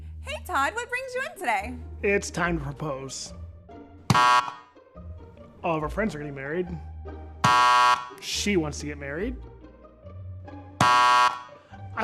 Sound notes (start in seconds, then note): 4.0 buzzer buzzes; 7.4 buzzer buzzes; 10.8 buzzer buzzes